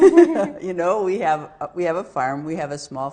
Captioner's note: both laughing